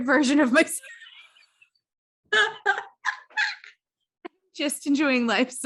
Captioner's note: both laughing